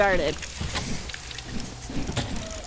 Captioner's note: gears turning